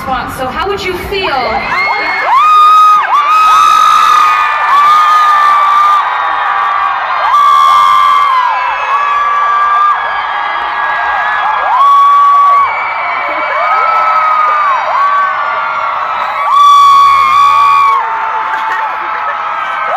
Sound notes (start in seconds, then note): 4.2 audience screams very loud